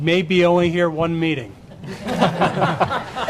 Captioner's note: laughter